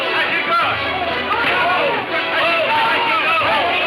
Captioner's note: men shouting